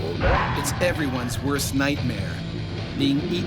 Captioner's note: voiceover